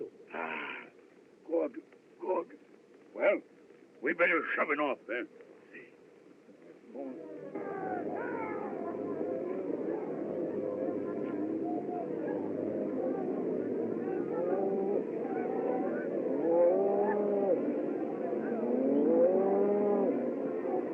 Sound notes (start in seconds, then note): 7.9 men Shouting; 13.9 lowing